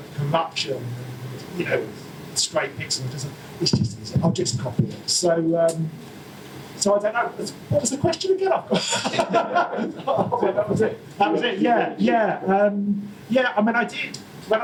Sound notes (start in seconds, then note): 8.7 audience laughter